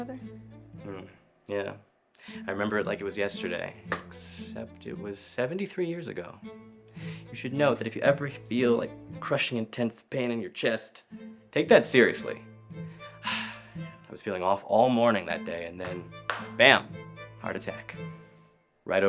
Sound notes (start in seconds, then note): 13.1 Oliver sighs